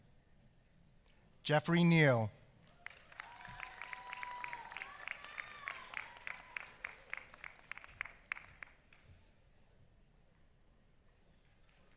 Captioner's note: applause